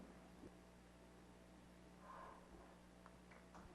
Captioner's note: applause